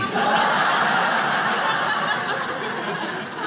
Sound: crowd laughs

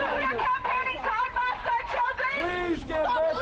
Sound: yelling

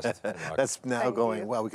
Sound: laughs

